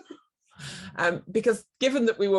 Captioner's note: laughter